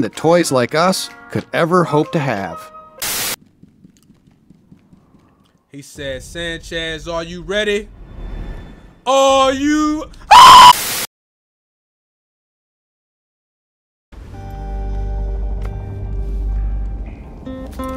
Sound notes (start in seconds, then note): 3.0 static; 10.2 screams; 10.5 static; 14.5 romantic string music